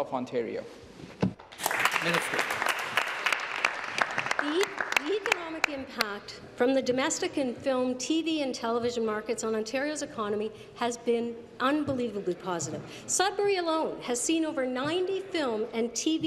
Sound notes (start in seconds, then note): 3.7 applause